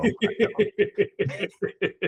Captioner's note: laughing